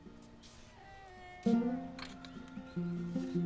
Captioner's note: hinge squeaking